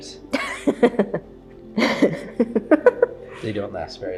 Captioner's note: chuckling